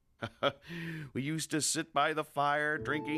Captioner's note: chuckles